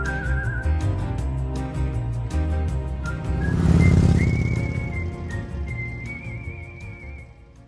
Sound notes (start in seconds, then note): 0.0 music fades; 4.4 motorcycle roars